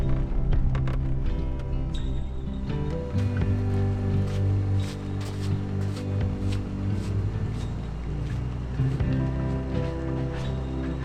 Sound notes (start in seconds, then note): 4.4 footsteps rustling